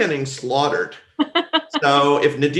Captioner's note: laughs